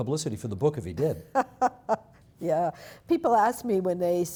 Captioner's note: laughing